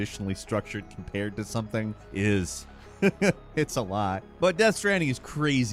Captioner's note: laughs